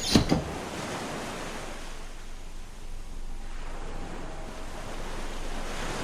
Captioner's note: waves crashing